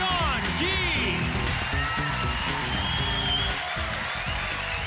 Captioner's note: applause